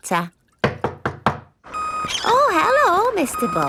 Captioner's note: knocking at door